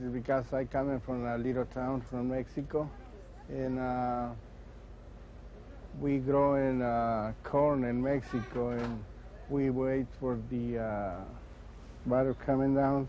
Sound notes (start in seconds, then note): none